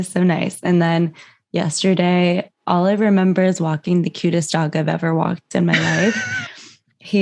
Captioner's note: laughter